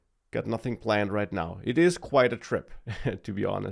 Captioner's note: laughs